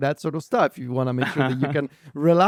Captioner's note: laughs